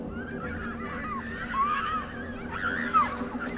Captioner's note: little girls screaming